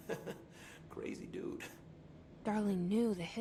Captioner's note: chuckles